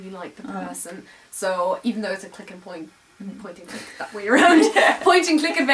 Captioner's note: laugh